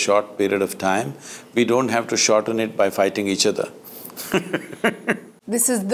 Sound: laughs

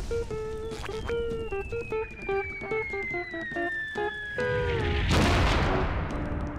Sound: high-pitched falling noise

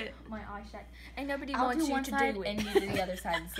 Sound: accent of some kind; laughs

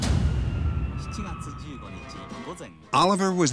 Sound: non-english speech

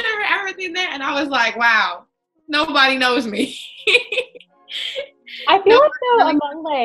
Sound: laughing

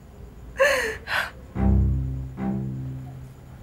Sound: cries

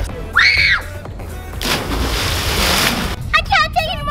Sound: screams

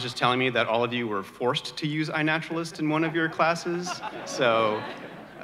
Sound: audience laughter

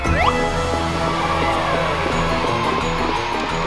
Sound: audience cheers

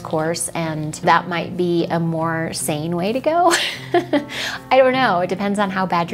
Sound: laughs

